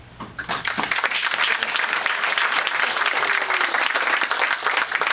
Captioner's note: audience applauding